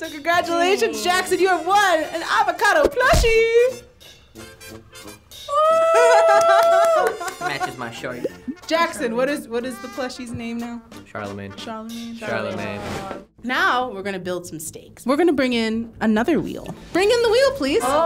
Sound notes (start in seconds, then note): 5.6 laughing